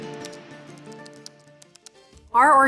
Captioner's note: keyboard clicking